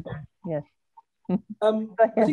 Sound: laughs

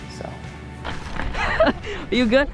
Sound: laughs

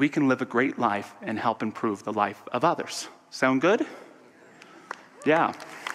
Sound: audience applause

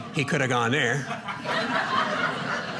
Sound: audience laughing

